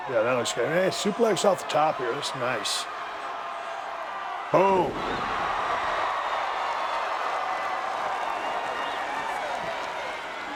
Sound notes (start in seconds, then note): 6.4 audience cheering